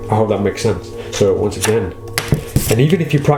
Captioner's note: cards clack